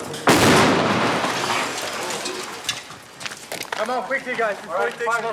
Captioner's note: explosives exploding